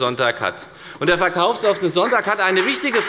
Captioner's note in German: Beifall bei der FDP